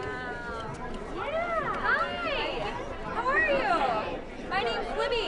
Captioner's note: voiceover